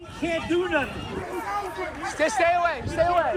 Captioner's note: shouting